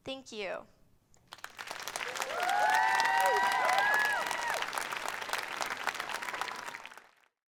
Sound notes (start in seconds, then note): 1.2 applause; 1.7 cheers